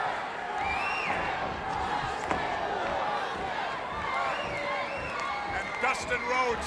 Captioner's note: crowd chatter